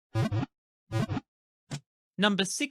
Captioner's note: Pokéball wiggle sound